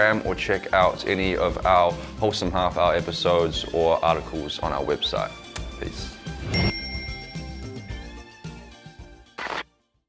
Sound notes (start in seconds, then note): 6.5 bell dings; 7.9 upbeat music